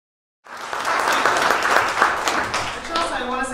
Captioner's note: audience applauds